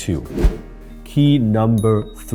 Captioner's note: whoosh